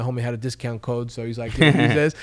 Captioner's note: laughing